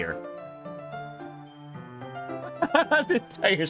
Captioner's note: laughs